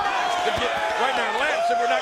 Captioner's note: crowd cheering